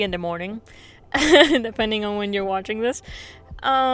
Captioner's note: laughs